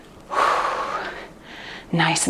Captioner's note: exhales deeply